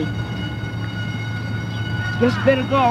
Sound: school bell rings

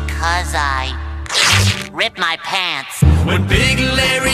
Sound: rips fabric

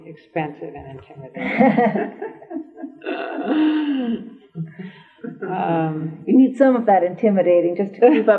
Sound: laughter

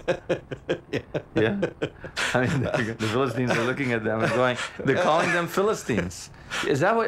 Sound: laughs

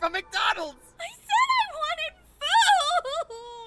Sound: breaks down and sobs

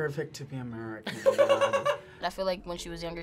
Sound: React laughs

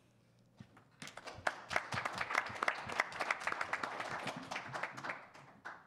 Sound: attendees applaud

